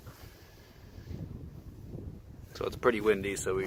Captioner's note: wind blowing